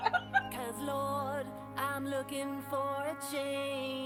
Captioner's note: group laughs